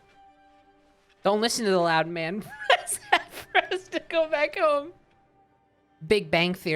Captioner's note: laughing